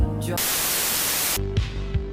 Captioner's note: Static